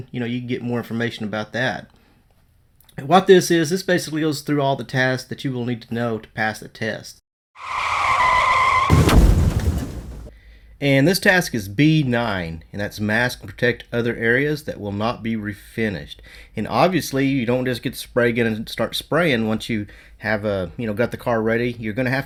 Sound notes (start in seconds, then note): 7.6 car crashing; 7.6 tires screeching